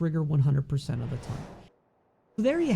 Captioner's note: air whooshes